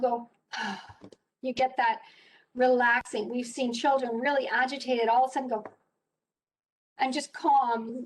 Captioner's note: sigh; sigh